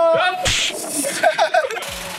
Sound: laughs

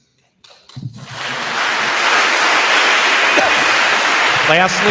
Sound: attendees applauding

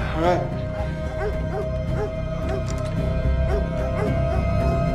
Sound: gasping; dogs barking

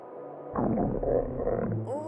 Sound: growl

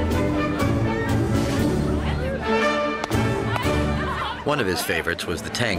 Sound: crowd Murmuring,</i> <i>Laughing

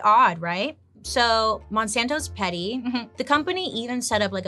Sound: chuckles

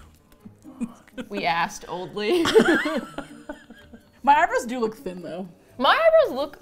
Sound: both laugh

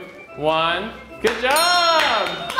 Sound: bell dinging

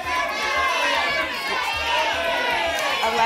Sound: audience shouting numbers

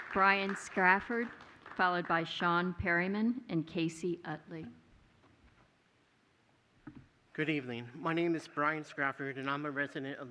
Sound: applause

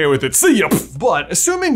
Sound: mimicking wand firing

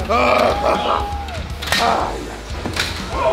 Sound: maniacal laughing; cheering

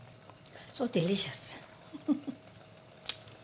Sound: laughs

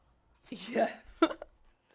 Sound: laughing

